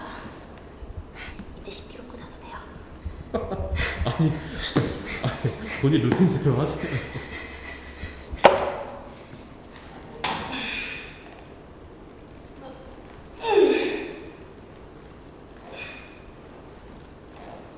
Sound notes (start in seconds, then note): 1.2 whisper